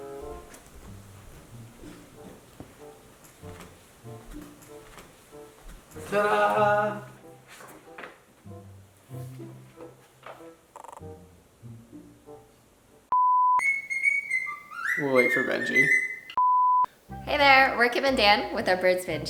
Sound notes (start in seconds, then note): 7.8 cockatiel whistling